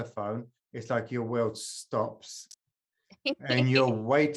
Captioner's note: laughing